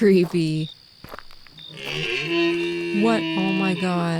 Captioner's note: loud animal noise, like mooing but not